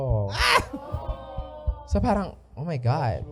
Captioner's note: audience awing